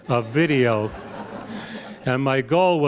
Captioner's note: laughter